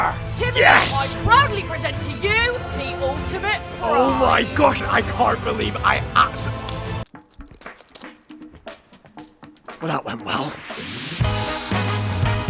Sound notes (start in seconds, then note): 7.2 breaking sound